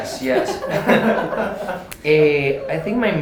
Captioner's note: laughter